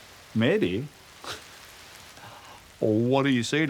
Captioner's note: laughs